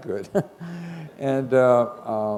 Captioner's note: chuckle